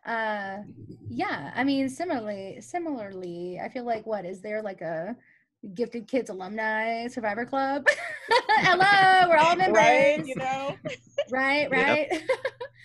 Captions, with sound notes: Yeah, I mean, similarly, I feel like what, is there as a gifted kids alumni survivor club? (laughs) Hello, we're all members. Right? You know? Right, right?